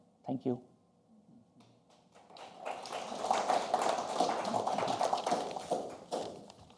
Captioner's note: applause